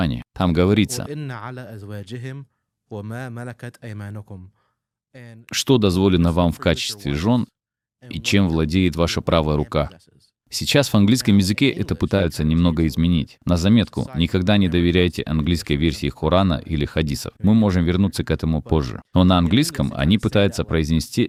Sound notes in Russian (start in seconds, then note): 1.2 говорит по-арабски